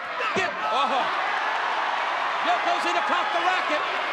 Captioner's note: audience cheers